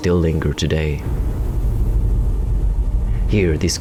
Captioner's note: distant booms